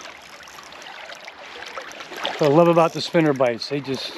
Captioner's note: reel spinning